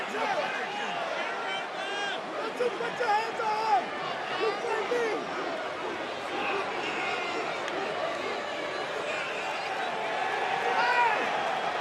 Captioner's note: yelling